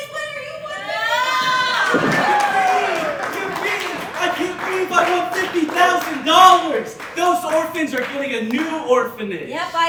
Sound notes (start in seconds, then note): 2.1 audience Cheering